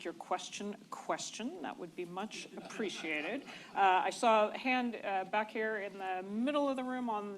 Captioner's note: laughter